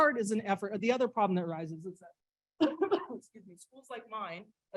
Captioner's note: coughs